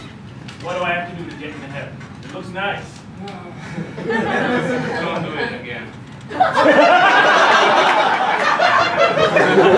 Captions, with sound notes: What do I have to do to get into Heaven? It looks nice. (sigh) Don't do it again. (laughter)